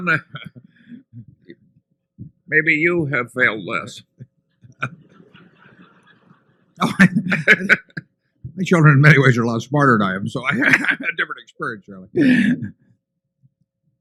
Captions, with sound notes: And Warren, maybe you have failed less. (Laughter) WARREN BUFFETT My children, in many ways, are a lot smarter than I am. So, I’ve had different experience, Charlie.